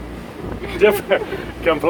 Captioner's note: laughs